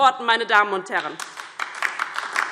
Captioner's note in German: Beifall DIE LINKE